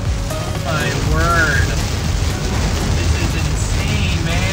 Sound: rain pattering

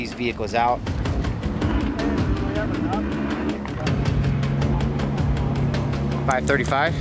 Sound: dramatic music; men chattering

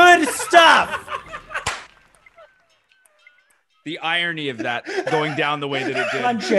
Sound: laugh

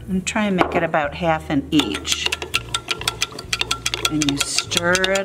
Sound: spoon clanking against glass

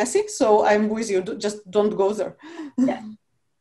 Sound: chuckles

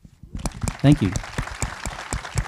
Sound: audience applauds

